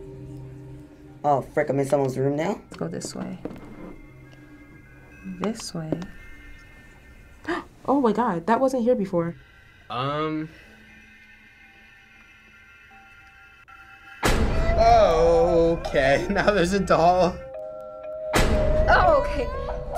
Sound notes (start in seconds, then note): 6.3 soft whisperings; 7.3 gasping; 14.6 creepy music; 18.6 creepy music